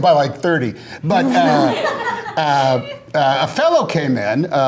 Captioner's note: laughter